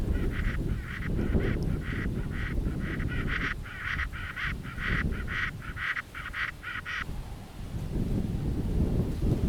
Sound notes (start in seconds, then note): 0.0 alien bird call